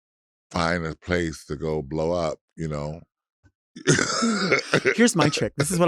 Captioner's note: chuckles